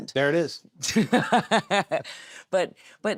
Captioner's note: interviewee laughs